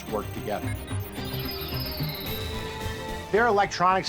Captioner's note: computer calculating sound effect